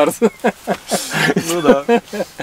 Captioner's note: laughing